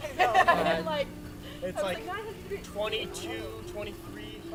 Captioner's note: laughter